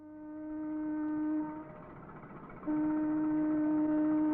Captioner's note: ship's horn blares